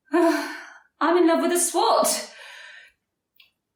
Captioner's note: chuckles